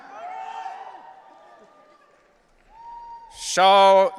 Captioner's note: audience cheering